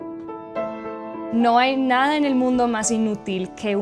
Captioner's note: in Spanish